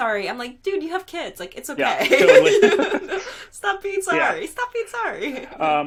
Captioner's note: laughing